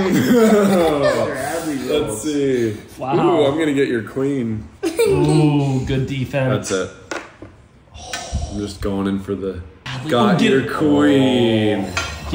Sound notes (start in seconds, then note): 0.0 dad laughing; 0.0 laughs; 4.8 giggles